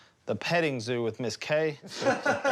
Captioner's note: laughing